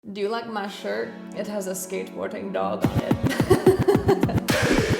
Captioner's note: laughs